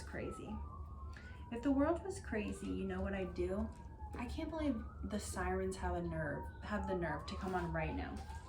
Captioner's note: loud sirens in the background